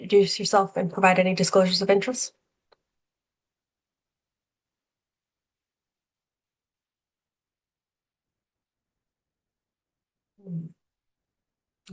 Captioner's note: pause